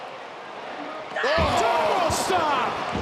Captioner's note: crowd groans